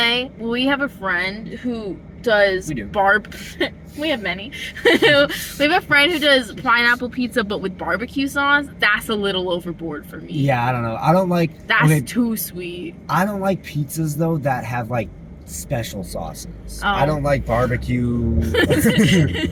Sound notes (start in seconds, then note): 4.5 laughing; 18.4 laughter